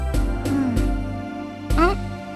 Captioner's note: nom